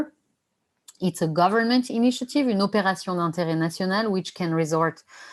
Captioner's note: non-english speech